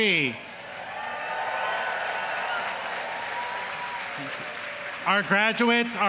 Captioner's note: audience applauding; audience cheering